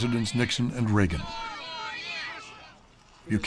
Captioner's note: chanting